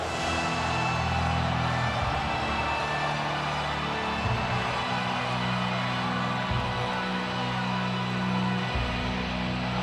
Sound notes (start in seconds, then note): 0.2 ominous music; 2.2 audience cheers